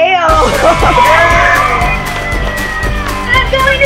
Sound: cheering

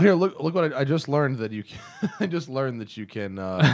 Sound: laughter

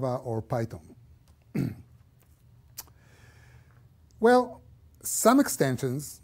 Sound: cough

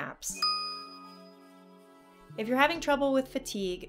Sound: pause

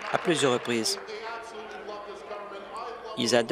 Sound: applause

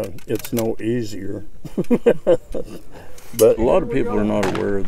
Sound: laughs

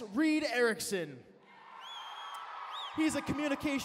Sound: cheering

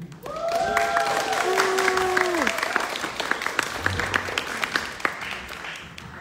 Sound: audience clapping; audience cheering

